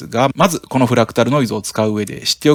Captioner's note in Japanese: フラクタルノイズ